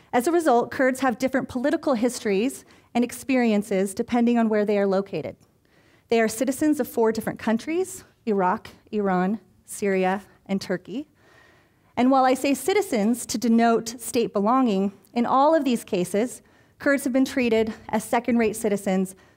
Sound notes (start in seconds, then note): none